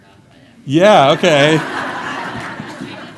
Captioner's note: audience laughing/inaudible/background audience